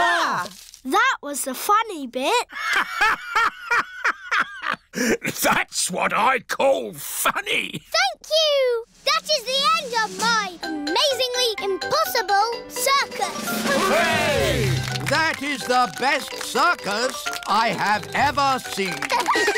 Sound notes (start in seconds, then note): 3.9 laughs